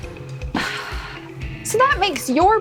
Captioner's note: sighs